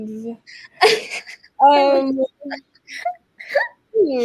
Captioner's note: laughing